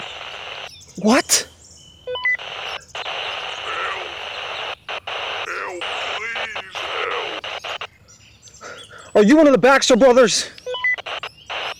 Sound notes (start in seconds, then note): 2.0 radio beeps; 4.3 static crackling on radio; 8.2 mysterious Voice On Radio